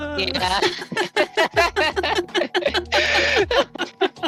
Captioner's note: laughing